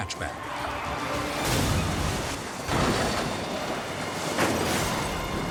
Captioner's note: vehicles crashing